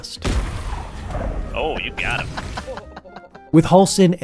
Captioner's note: laughing